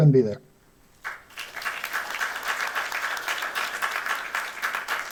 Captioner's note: applause